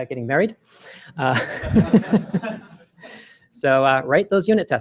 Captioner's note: laughter